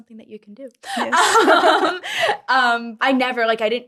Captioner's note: laughs